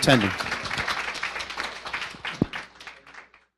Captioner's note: applause